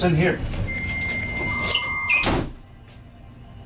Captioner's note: eldritch fax machine noises